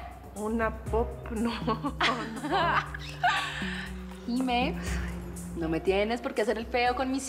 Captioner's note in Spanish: Risas